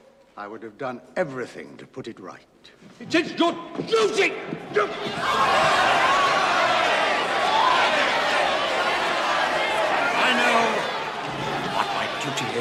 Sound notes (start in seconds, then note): 4.9 clamoring